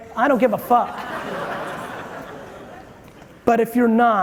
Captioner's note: audience chuckling